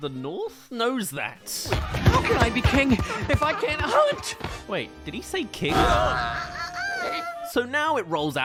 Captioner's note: bump